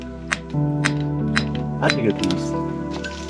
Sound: chisel clinking; soft music

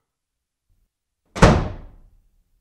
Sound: door Slam

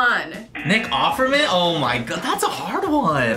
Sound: buzzer

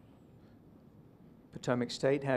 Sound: silence

